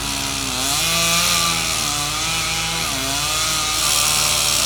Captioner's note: chainsaw humming